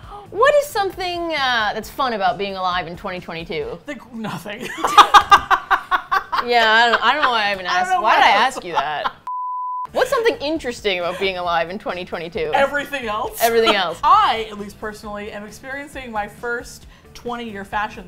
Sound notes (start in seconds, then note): 4.6 both laugh; 8.6 laughs